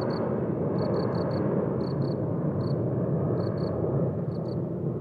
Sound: crickets chirping

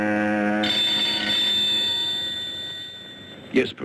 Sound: phone ringing

